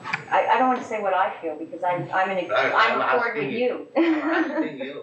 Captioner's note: laughs